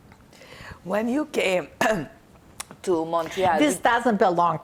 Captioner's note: clears throat